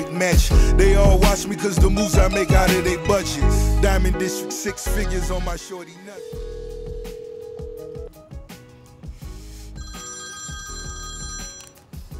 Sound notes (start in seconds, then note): 6.1 phone ringing; 9.8 phone ringing